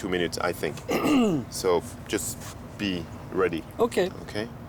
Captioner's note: clears throat